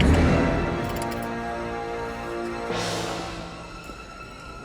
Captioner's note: change drops